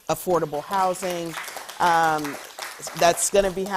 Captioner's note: audience clapping